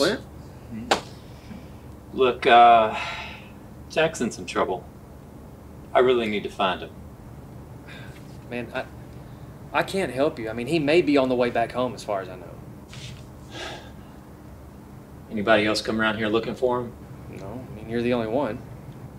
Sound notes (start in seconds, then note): none